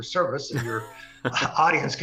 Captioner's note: laugh